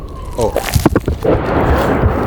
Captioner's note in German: Detonation